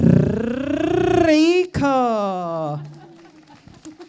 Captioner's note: audience applauds